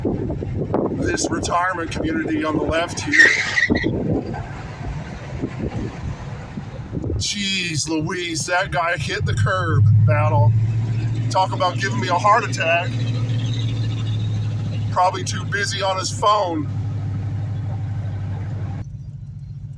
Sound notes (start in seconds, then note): 3.2 tires squealing on curb